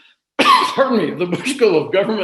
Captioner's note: coughs